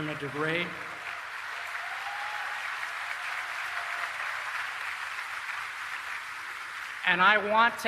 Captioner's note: applause